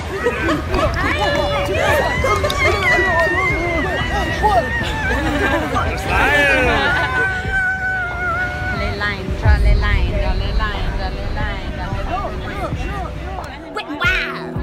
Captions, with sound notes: *major tongue flapping* *mass hysteria* Leland Leland Leland Leland Leland Leland wet and wild